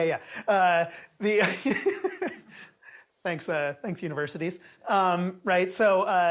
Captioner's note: laughs